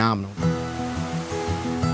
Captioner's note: waterfall sound